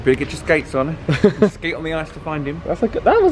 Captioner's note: laughing